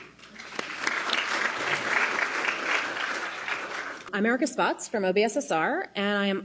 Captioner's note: applause